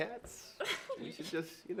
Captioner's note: laughs